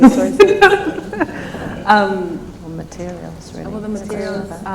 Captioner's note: laughs